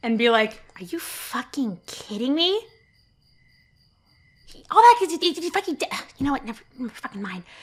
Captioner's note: stammering